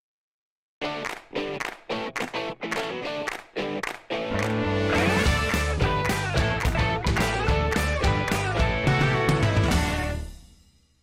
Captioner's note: claps